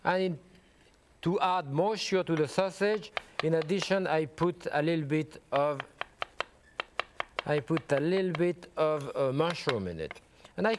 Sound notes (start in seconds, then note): 5.5 knife chopping